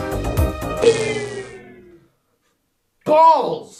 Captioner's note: funky pop music; power whirs down